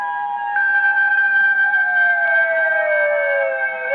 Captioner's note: police siren wailing